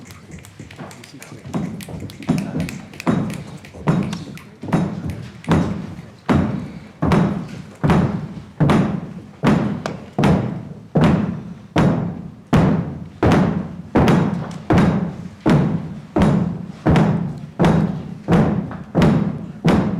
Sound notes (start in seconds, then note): 11.4 crowd stomping their feet